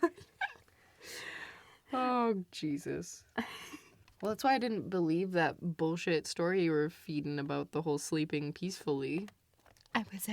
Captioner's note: both laugh